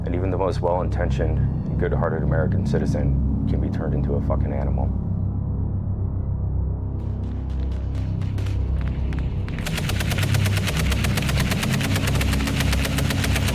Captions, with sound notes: And even the most well-intentioned and good-hearted American citizen can be turned into a fuckin' animal." (distant gunfire echoes) (dark music) (machine gun rattles)